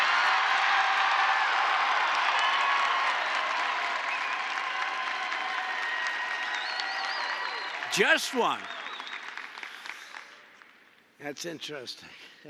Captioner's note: applause